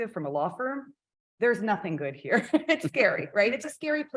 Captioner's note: chuckles